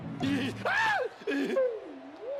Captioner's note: screams